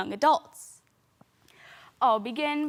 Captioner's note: soft breathing